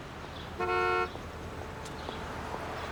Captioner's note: horn honking